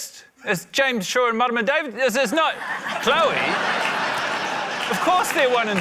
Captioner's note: laughter